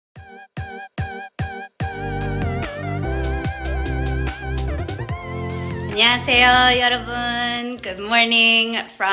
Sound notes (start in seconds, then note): 0.1 upbeat electric music; 5.6 foreign language